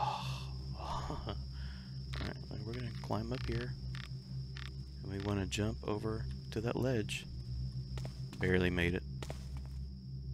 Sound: chuckles

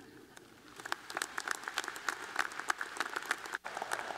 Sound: applause

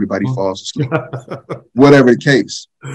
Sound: laughs

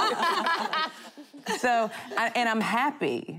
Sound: laughing

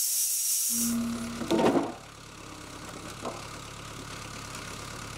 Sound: motor humming

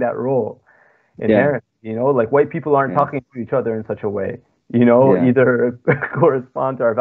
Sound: speaking foreign language

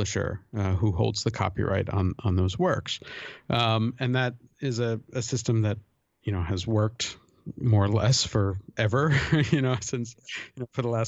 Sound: chuckle

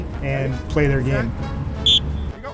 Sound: whistle blows

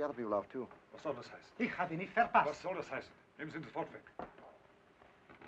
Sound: speaking in foreign language

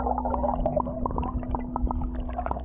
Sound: water splashing

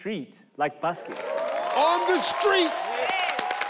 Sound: audience cheering

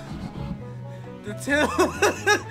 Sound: laughs

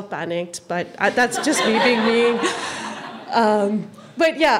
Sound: audience laughing

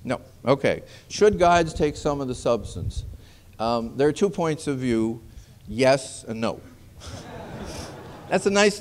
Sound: laughter

